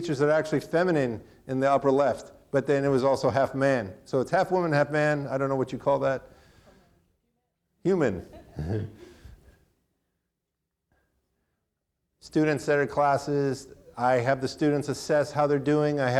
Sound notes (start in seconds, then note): 8.0 chuckles; 8.2 audience laughing